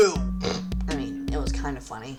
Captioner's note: snicker